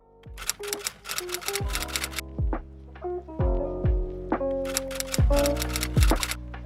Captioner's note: mellow music; typewriter keys clicking